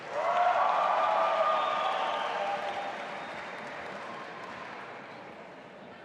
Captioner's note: audience applauding and cheering